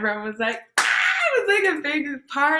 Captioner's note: squeals